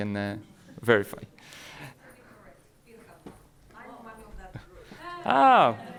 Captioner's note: woman speaking off microphone